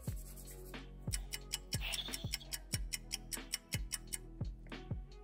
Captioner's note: fast clock ticking